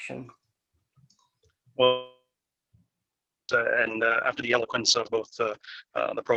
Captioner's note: audio cuts out